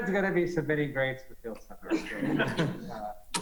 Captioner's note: laughter